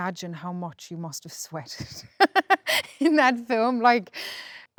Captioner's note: laughs